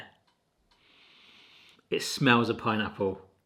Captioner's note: sniffing